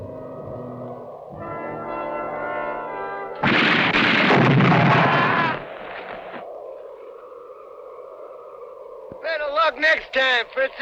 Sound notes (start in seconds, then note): 3.4 gun firing; 4.6 screaming